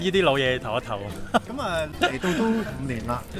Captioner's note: laughs